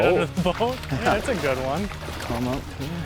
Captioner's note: pat